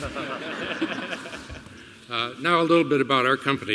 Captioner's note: laughter